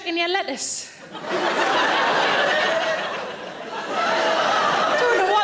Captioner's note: audience laughing